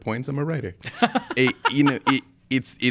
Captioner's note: laughing